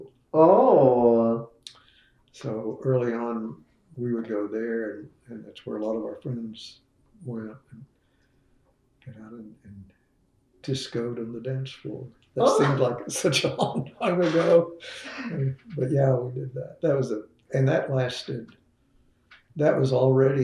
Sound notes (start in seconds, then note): 15.3 laughs